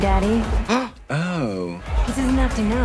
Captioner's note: Trixie gasps